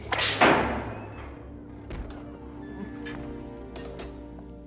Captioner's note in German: Peitschenknallen; Schließen der Tür